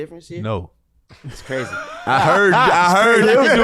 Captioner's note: wheezes